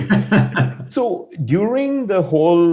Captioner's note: laughing